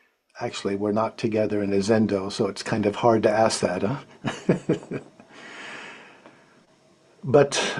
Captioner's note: laughs